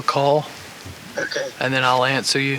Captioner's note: voice On Walkie